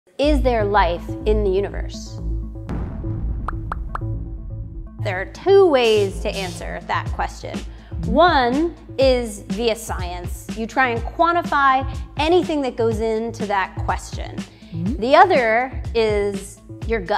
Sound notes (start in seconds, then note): 2.6 boom